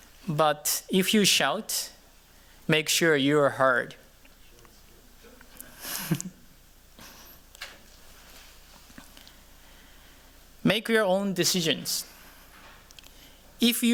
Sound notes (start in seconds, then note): 5.5 chuckles